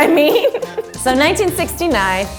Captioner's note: laughing